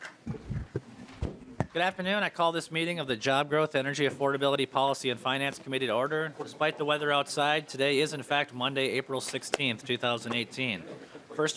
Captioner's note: gavel